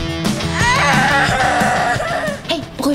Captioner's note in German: Kindergeschrei